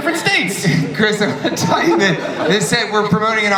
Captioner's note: laughs